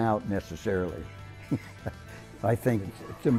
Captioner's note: laughs